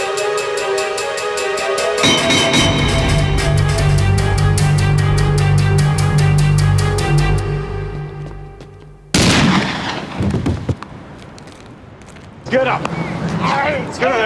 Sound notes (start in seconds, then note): 9.2 single gunshot